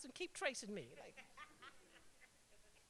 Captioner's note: laughter